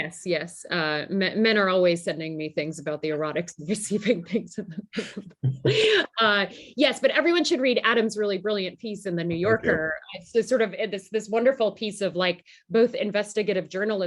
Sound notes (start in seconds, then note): 3.8 laughter